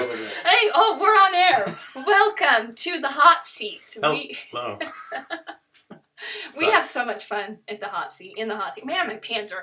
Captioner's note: laughter